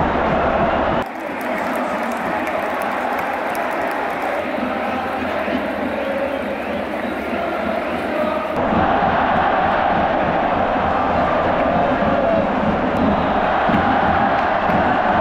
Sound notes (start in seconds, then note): 8.5 Screaming at Tokyo Dome